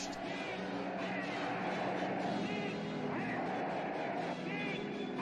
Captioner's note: soldiers chanting